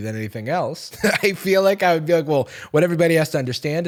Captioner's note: laughing